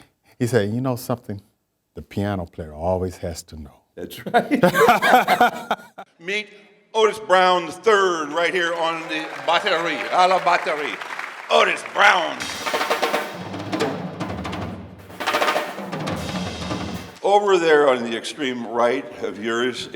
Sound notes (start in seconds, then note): 4.2 laughs; 4.2 both laughs; 10.7 audience applauding; 11.4 upbeat drums music